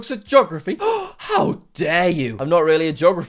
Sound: gasps

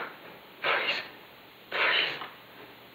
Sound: panting

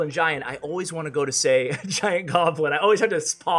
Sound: laughing

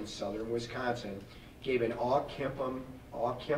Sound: none

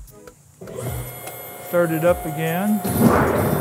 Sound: machine motor running

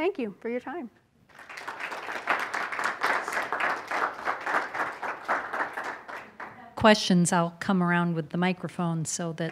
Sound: applause

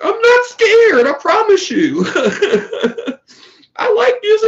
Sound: laughs

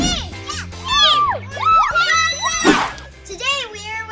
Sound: cheering

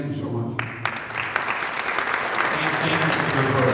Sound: audience applauding

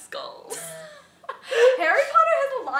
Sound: laughs

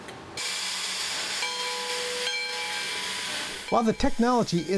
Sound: train bell clanging; steam hissing

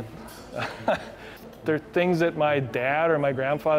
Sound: laughter

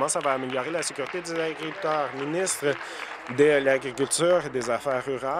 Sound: applause

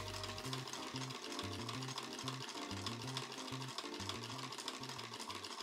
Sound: happy sewing machine ASMR to accompany correcting ones mistakes

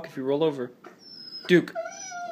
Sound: frustrated whine

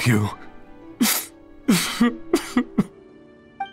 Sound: sob

